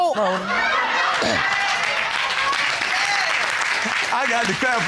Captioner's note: applause